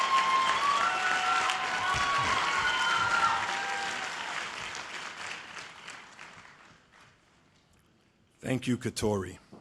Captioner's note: cheers and applause